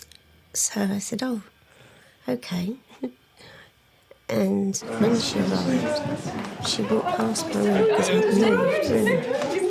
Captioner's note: laughs